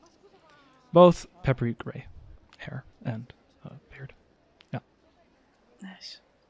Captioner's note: crowd noises continue in the background